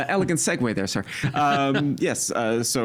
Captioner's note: laughing